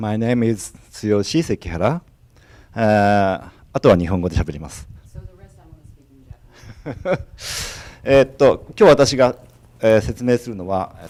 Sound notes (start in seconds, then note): 3.8 speaking foreign language